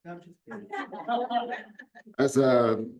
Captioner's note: audience laughs